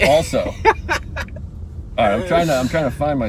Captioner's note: laughing